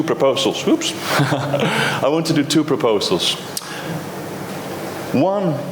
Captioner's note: chuckles